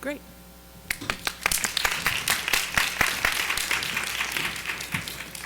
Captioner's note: audience applauding